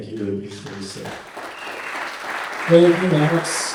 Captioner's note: audience applauding